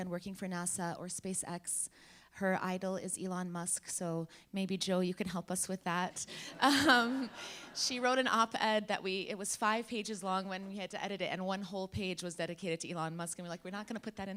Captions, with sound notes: and working for NASA or SpaceX. Her idol is Elon Musk, so maybe Joe you can help us with that. (laughs) (laughing) She wrote an op-ed, that it was five pages long when we had to edit it, and one whole page was dedicated to Elon Musk, and we're like,